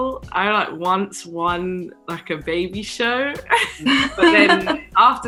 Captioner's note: chuckling